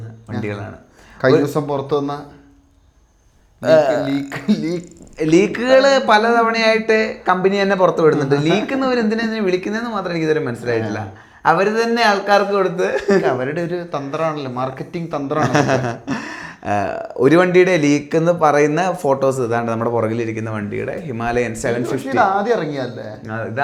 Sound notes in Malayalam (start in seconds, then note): 15.4 പൊട്ടിച്ചിരി